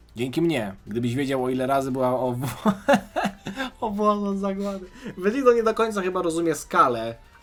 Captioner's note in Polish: śmiech